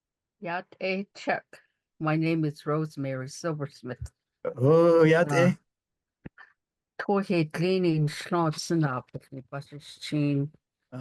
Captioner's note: speaking Navajo